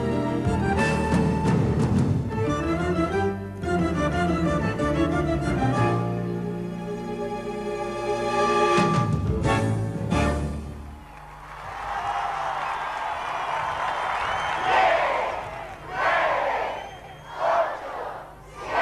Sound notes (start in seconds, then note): 10.8 applause and cheers; 14.6 countdown in Spanish with an Argentine accent